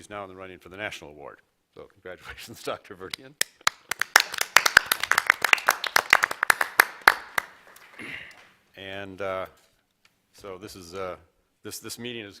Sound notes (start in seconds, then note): 8.9 applause